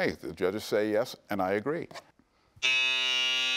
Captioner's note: buzzer beeps